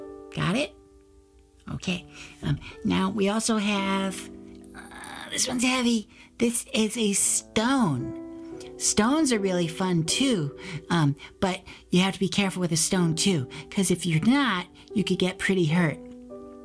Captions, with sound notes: Got it? Okay. Now we also have (grunts) this one's heavy This is a stone. Stones are really fun, too. But you have to be careful with a stone too. because if you're not, you can get pretty hurt